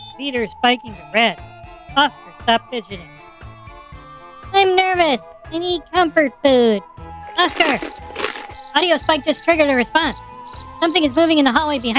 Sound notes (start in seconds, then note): 7.2 he crinkles a wrapper loudly